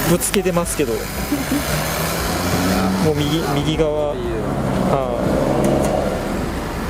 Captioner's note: laughs